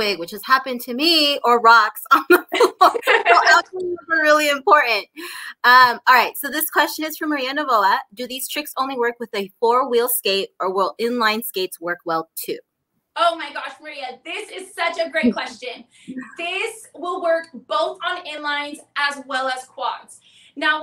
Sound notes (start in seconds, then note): 2.3 laughs